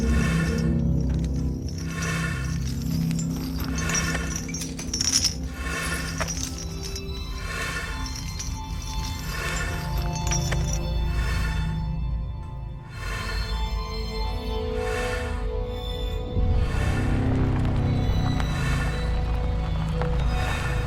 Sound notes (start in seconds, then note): 4.0 chains rattling; 16.3 ominous orchestral music continues